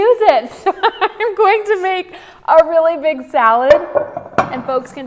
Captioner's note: laughing